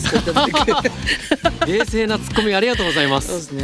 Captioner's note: laughs